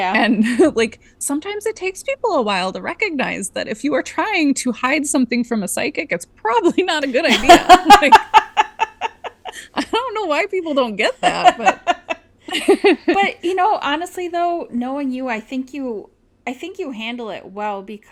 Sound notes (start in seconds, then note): 7.2 laughs